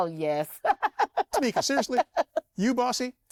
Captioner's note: laughs